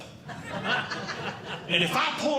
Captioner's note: audience Laughing